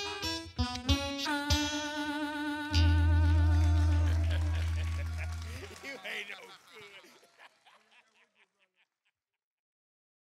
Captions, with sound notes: [song ends] [applause] - You ain’t no good! [laughing]